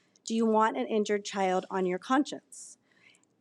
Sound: none

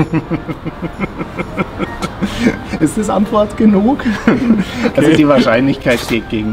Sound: laughs in horror

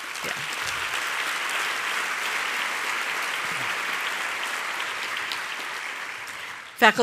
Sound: applause

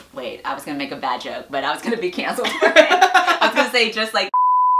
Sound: laughs

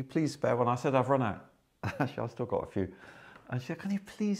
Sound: chuckles

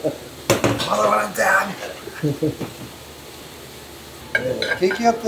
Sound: laughs

